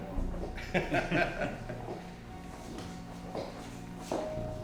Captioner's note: men laugh